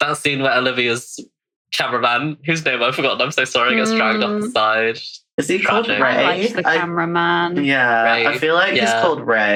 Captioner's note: laughing